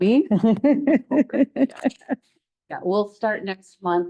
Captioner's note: audience laughing